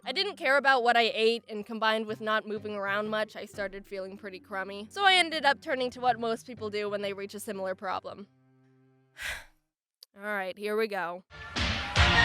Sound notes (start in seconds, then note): 9.2 sighs